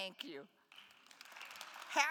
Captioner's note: attendees applauding